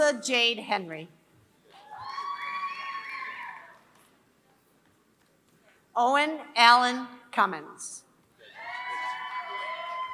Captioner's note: applause